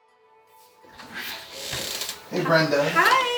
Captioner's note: door creaking